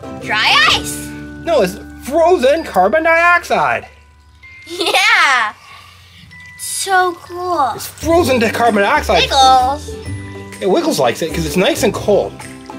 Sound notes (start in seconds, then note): 4.6 chuckles